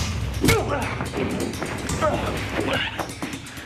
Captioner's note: Jason grunts